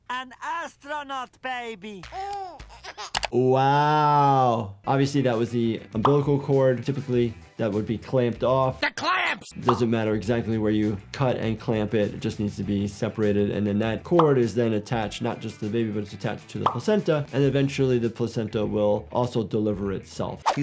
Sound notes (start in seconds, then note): 2.0 baby crying